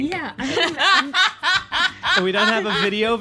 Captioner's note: laughter